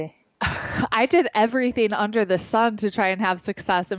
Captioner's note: chuckles